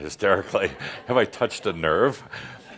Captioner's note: only a few chuckles